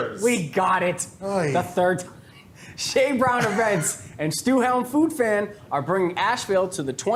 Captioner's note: laughs